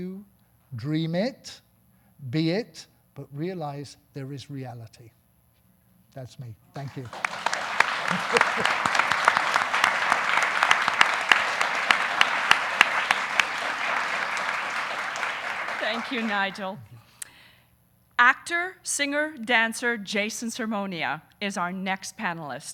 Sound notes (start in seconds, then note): 7.1 audience applauding; 7.9 laughing